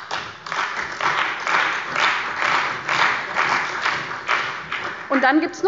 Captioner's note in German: Beifall bei der CDU und dem BÜNDNIS 90/DIE GRÜNEN